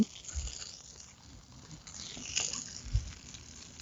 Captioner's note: oil hissing